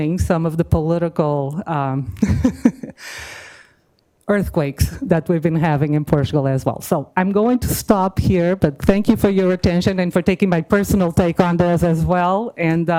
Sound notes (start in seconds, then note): 2.2 laughs